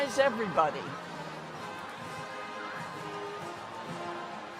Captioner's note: crowd chattering distantly; upbeat band music